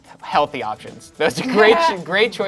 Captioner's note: laughing